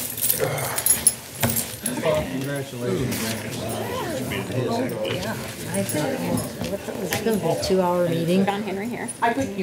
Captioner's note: chatter